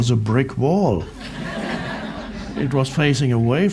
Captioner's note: crowd laughs